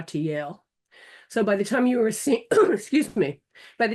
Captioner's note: coughing